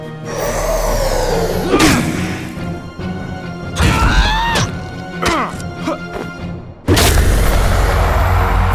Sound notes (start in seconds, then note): 0.3 N00bly grunts